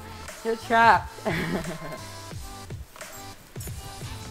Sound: laughs

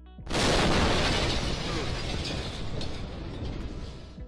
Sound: sonic boom booms

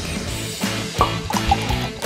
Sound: wine cork pop; wine pours

